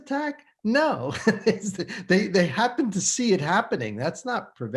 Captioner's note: chuckles